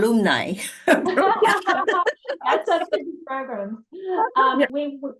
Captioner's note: laughter